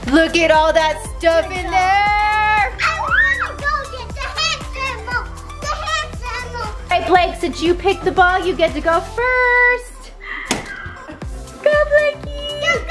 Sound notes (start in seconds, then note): 2.9 cheers